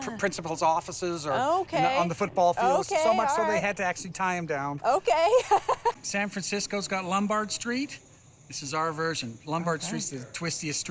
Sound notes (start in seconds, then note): 5.2 laughs